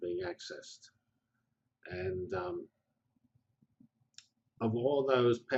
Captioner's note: pause